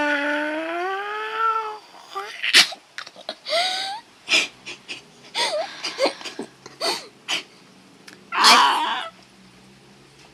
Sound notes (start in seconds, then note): 2.9 giggles and makes final odd noise